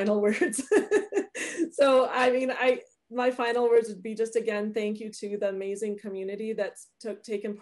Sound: laughs

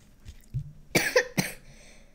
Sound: cough cough

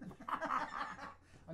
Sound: both laugh loudly

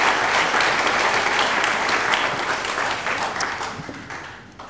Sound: all laugh and clap

